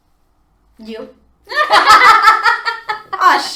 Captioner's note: laughter